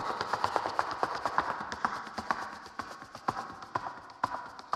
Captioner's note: shoes clacking